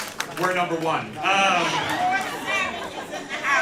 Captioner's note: laughter